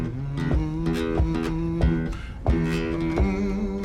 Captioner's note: hums